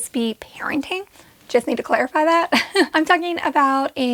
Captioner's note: giggles